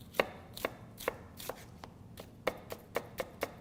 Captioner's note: chopping sounds